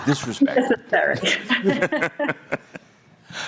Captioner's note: laughing